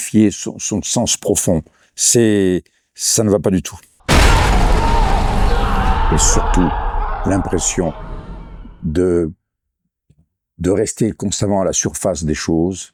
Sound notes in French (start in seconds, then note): 4.5 cri